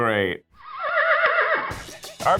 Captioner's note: horse whinnies